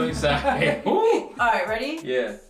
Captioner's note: both laughing